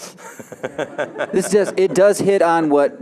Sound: audience laughing

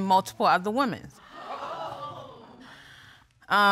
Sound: audience gasps

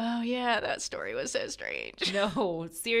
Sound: laughs

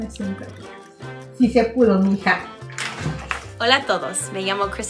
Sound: speaks in foreign language; mom speaks in foreign language

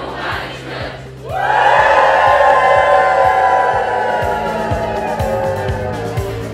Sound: cheers

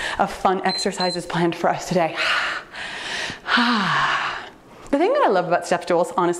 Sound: timer beeps

